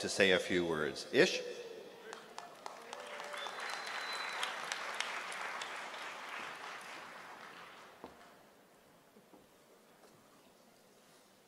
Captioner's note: applause